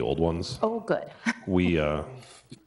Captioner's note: chuckles